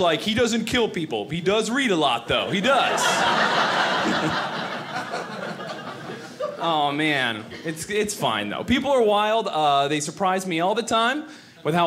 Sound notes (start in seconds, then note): 2.4 audience laughing